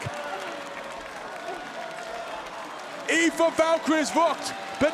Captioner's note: applause